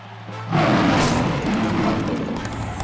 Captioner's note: loud roar